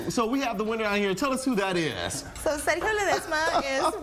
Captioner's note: laughing